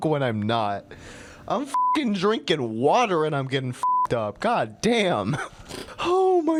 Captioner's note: laughs